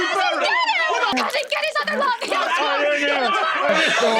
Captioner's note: disgusting squelching noises